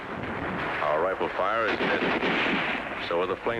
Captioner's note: rifle fires